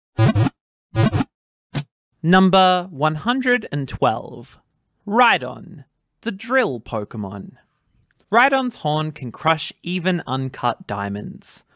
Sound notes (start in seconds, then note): 0.4 Pokéball wiggle sound